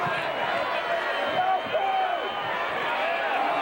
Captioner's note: audience indistinct yelling